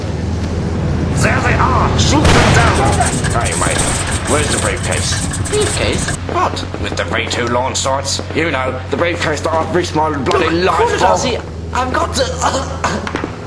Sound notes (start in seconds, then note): none